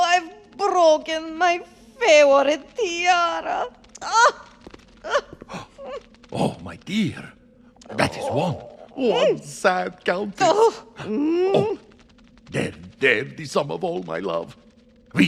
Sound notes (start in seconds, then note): 3.7 groans; 5.0 cries; 5.2 gasps; 10.9 groans